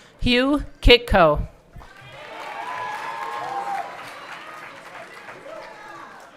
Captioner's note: everyone cheering